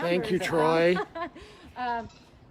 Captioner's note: laughing